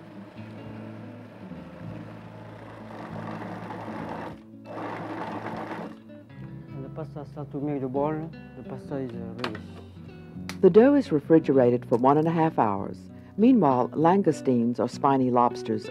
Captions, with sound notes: (calm music) (food processor churning) - [Voiceover] When the pasta settles in a ball, the pasta is ready. - [Voiceover] The dough is refrigerated for 1 and 1/2 hours. Meanwhile, langoustines, or spiny lobsters,